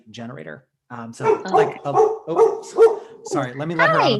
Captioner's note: dog barking